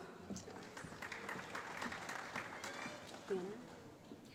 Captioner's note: applause